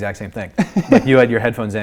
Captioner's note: laughing